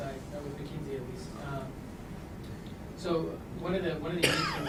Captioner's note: person coughing